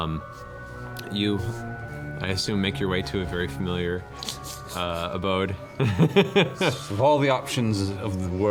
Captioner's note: laughs